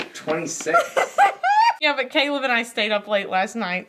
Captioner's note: laughs